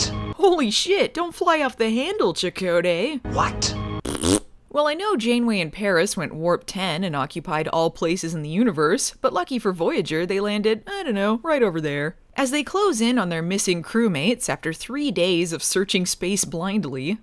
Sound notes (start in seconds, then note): 4.0 farts